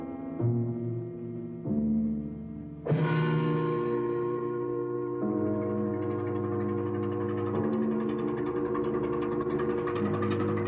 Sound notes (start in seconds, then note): 5.6 dramatic orchestral music continues; 7.3 engine rattling